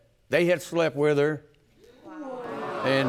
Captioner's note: audience murmurs